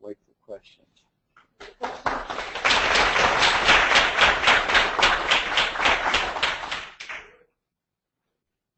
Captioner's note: applause